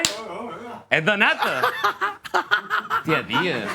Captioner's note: laughs